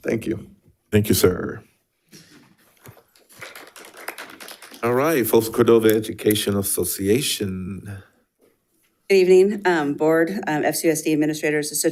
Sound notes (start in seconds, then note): 2.8 attendees clapping